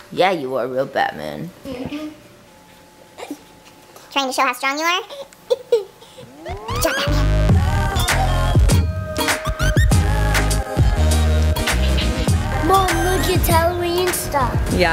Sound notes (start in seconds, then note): 5.5 laughs; 6.5 upbeat funky music